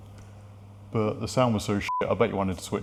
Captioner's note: beep